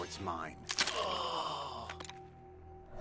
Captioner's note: groans